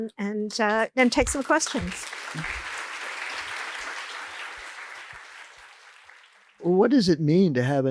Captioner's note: applause